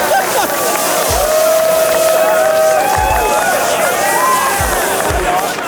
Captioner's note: cheering